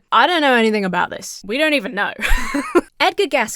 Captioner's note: laughs